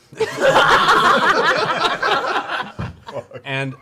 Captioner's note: laughter